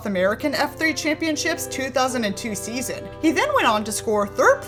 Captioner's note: none